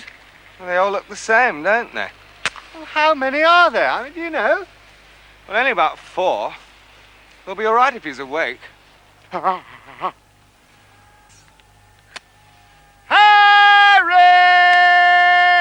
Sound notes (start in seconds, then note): 9.4 jerome exclaiming in pain